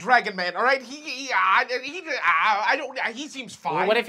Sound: stutters

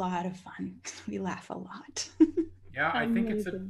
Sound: chuckles

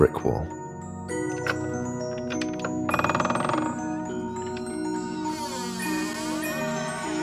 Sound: door creaking

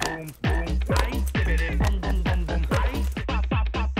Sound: dog barks

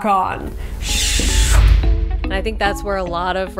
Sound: air whooshing

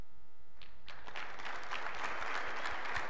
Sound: applause

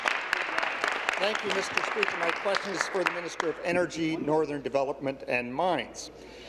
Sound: applause

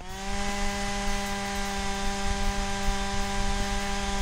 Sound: ice auger drilling

